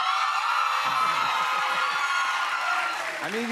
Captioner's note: cheers and applause